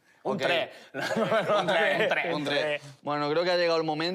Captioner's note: laughs off